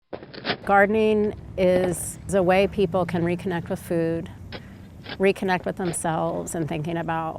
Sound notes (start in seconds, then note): 0.1 digging in dirt